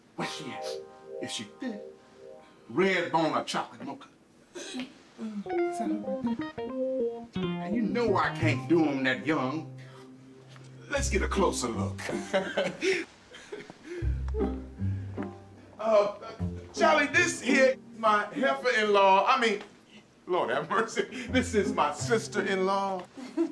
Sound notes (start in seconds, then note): 12.0 chuckles; 23.1 chuckles